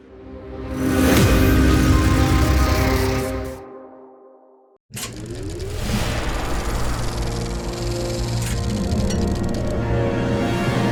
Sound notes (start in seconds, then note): 0.2 sweeping electronic hit; 5.5 dramatic music; 6.6 film reel flapping